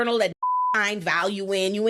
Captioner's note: beep